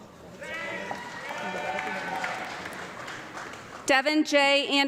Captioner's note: audience clapping